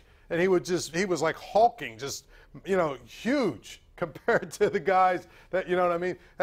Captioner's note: laughter